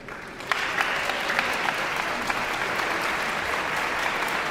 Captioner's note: audience applauds